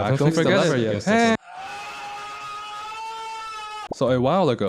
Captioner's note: scream